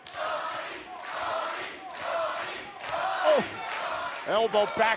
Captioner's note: fans chanting